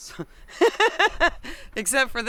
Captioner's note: laughter